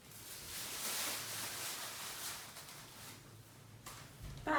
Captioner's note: bag rustling